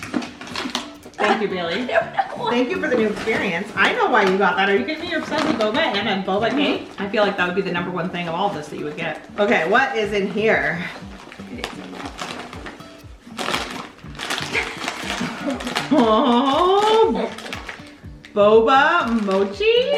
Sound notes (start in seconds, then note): 14.4 chuckles